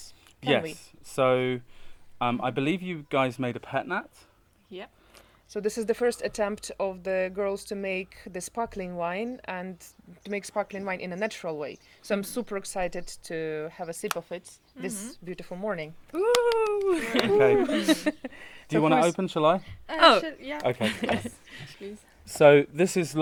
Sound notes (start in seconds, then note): 16.2 clapping